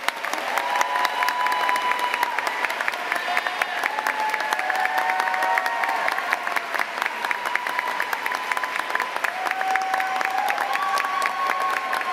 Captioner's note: cheers and applause